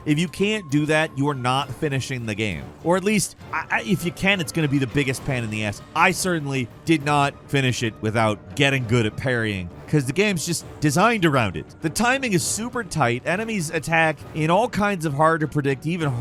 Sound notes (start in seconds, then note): none